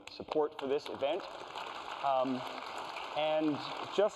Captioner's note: applause